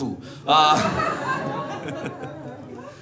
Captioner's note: audience laughing